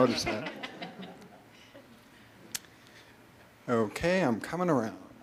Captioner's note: audience laughter